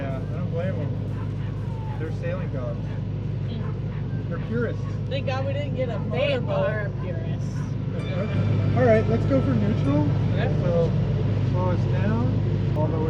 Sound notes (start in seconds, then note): 8.3 laughs